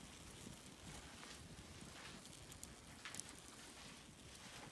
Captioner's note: crackle and steam of the fire